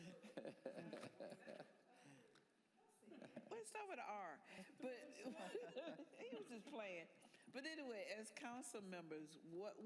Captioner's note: laughter